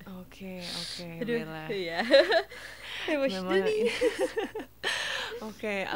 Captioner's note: laughs